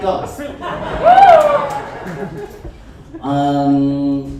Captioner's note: audience chuckles